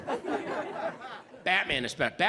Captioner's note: audience laughs